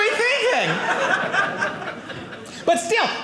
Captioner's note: audience laughing